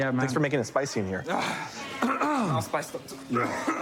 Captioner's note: coughs; clears throat